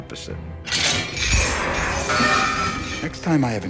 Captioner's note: chains clatter